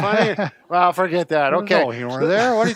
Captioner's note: laughs